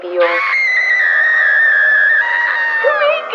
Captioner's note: screaming